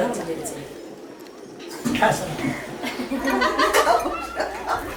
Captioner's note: laugh